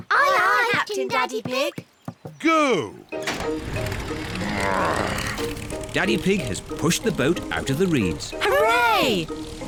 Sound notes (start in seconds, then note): 3.2 engine starts